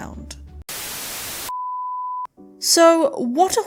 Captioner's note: static